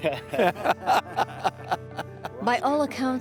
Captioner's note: group laughs